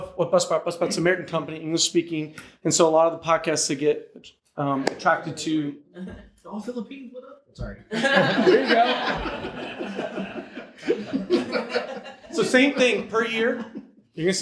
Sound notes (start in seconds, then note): 7.9 audience laughs